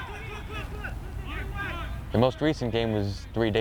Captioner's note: players shouting